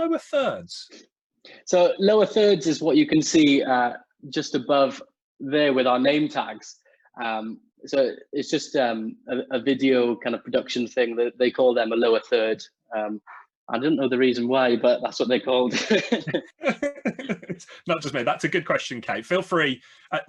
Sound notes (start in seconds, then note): 15.7 laughs